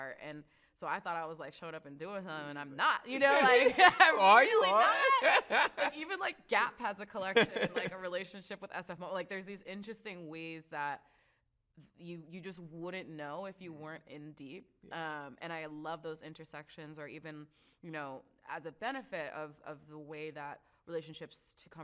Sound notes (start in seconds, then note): 3.2 laughs